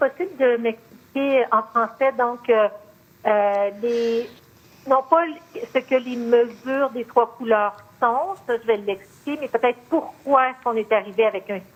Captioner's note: speaking French